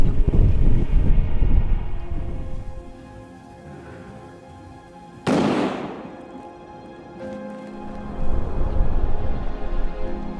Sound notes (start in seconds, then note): 5.2 gunshot; 7.8 sad music